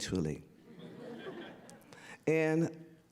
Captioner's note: audience laughter